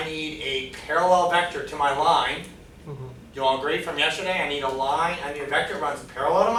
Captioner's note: none